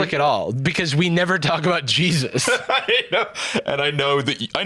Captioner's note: laughing